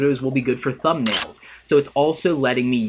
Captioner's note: camera clicking